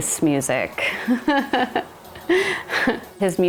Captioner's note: laughs